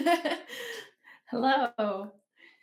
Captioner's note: giggles